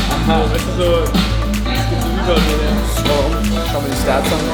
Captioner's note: group chatting